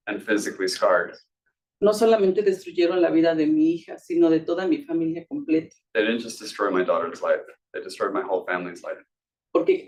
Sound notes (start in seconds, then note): 1.9 speaking Spanish; 9.6 speaking Spanish